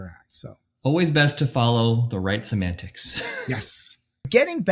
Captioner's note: laughs